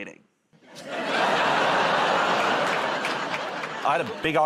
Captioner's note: laughter